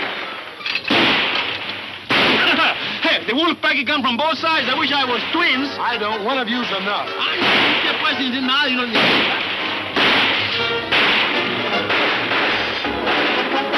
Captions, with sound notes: - Hey, the Wolf pack is come from both sides! I wish I was twins! - I don't one of you's enough! (Poncho yelling in Spanish) (guns firing)